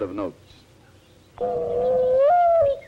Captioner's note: mourning dove call